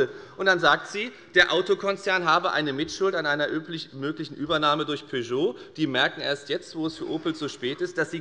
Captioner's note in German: none